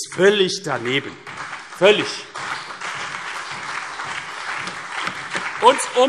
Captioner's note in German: Beifall CDU, BÜNDNIS 90/DIE GRÜNEN, SPD und vereinzelt DIE LINKE